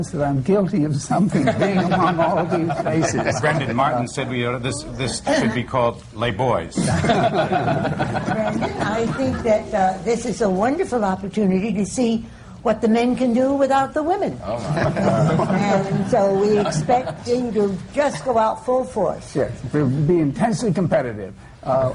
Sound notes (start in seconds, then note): 2.9 laughter; 6.8 laughter; 14.6 laughter